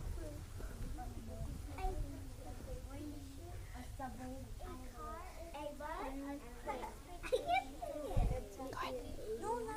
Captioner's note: students discussing with their partners